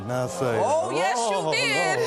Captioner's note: spectators murmuring